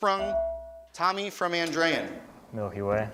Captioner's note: beeping